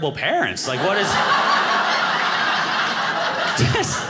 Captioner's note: audience laughing